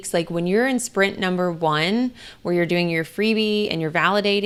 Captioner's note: none